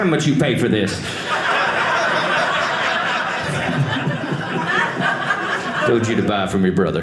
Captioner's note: audience laughing